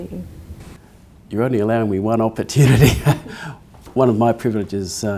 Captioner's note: laughs